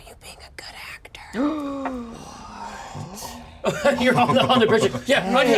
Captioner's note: gasps